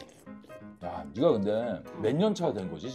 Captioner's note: slurp